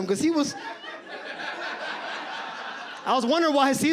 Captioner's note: audience laughs